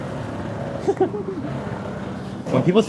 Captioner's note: chuckles